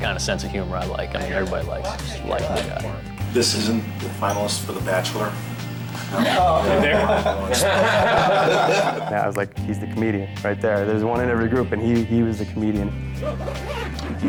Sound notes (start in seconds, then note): 7.9 lalaugughthterer